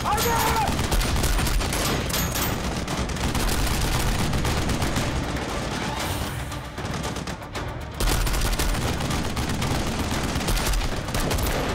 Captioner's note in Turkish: Silah sesi